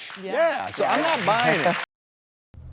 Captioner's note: audience clapping; laughs